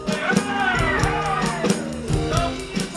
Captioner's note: crowd cheers